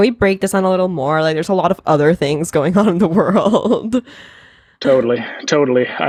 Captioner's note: laughs